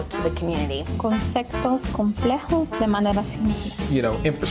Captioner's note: non-english speech